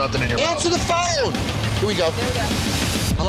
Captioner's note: shouting